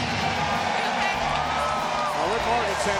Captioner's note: spectators cheering